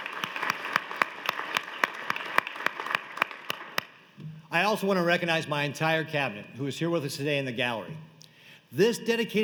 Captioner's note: applause